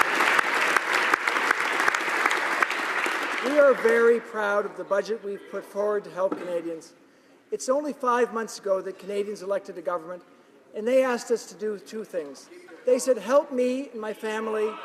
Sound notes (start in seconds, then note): 4.5 applause